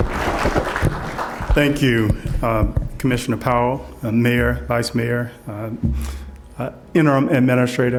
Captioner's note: applause